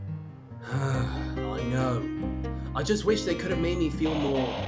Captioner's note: sighs